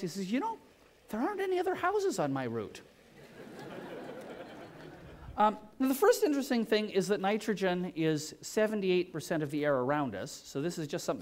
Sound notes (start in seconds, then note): 3.2 laughter